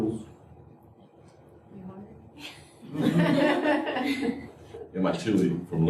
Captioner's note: laughter